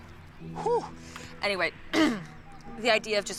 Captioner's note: clears throat